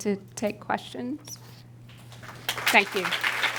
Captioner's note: applause